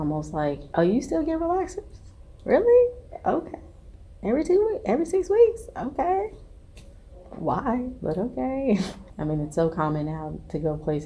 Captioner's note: laughs